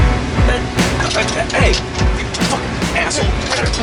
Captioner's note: struggling noises